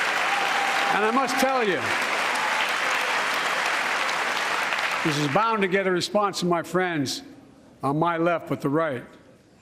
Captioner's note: applause